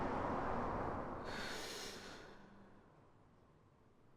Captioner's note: Jamie sighs